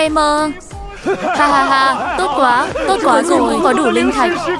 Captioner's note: tiếng cười